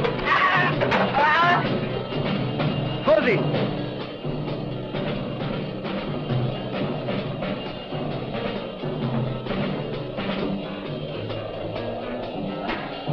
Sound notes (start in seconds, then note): 0.2 man screaming; 3.0 man speaking in a foreign language; 9.2 upbeat instrumental music